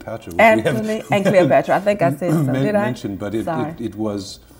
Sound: murmurs

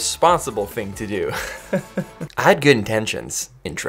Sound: laughs

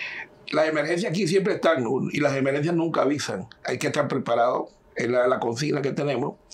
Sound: speaking in Spanish

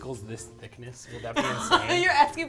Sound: laughs

